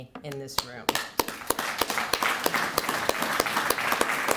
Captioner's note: applause